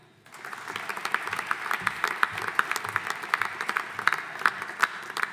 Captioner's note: audience applauding